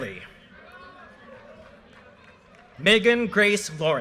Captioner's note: audience cheers and applause